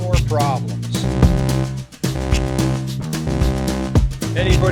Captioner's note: alert